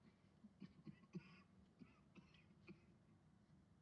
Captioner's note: coughing